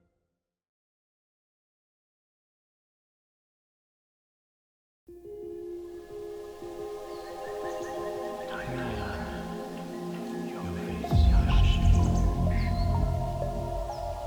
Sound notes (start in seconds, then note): 5.4 speaking in tongues